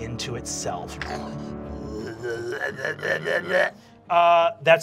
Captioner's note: monstrous gurgling